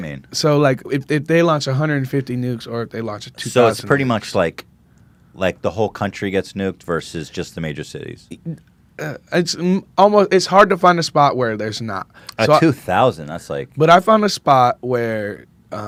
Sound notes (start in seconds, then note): 8.7 stammers